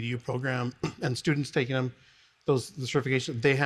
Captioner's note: speaks faintly